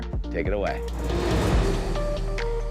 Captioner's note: graphics whooshing; upbeat music